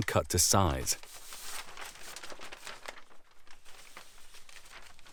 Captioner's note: paper rustling